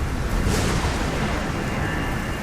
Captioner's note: lightning cracking